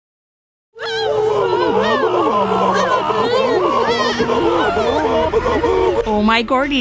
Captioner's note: screaming; stammering